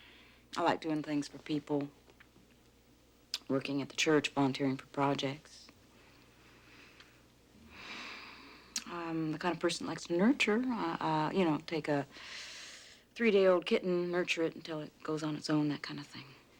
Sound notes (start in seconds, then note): 7.6 sighs